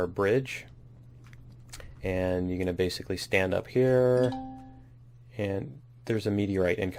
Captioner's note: ding